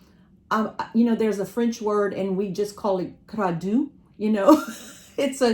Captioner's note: speaks in French; laughs